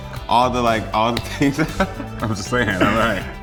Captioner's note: laughter